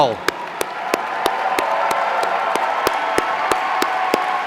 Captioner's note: audience cheering